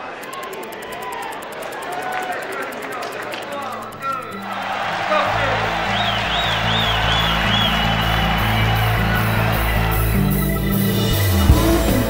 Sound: applause

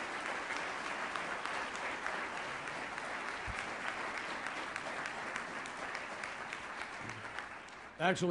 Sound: applause

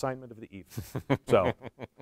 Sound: laughs

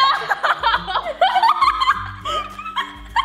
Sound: laughter

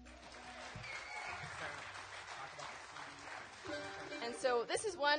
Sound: applause

